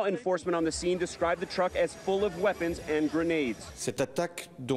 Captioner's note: speaking a foreign language